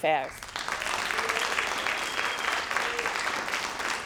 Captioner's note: crowd applauding